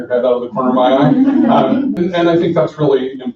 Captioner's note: laughing